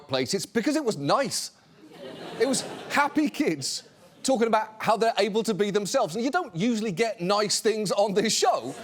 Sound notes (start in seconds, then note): 1.9 studio audience chuckles